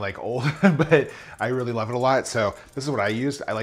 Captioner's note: laughs